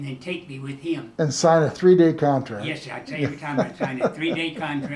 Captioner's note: chuckles